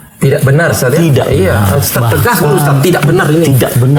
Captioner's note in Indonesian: tertawa